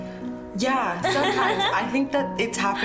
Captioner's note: laughs